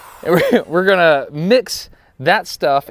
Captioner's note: laughs